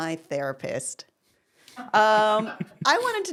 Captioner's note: laughing